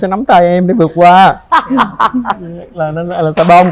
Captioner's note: laughs